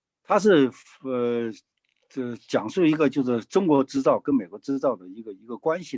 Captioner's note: speaking in foreign language